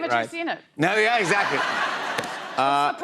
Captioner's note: laughter